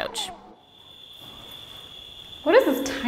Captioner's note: crickets chirping